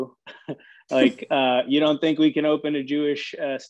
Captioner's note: laughing